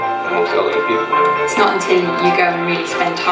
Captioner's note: woman 2 On Audio